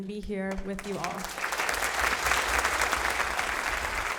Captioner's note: applause